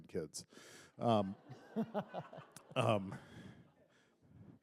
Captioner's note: laughter